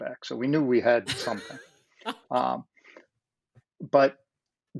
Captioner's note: laughs